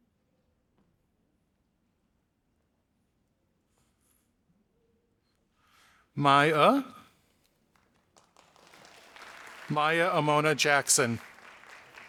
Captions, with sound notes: Maya, Maya Amona Jackson. (audience applauding)